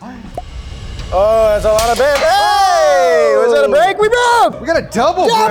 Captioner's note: cheering